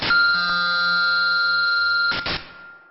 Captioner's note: buzzing